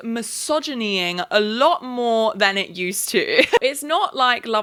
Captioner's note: chuckles